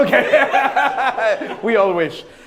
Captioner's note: laughs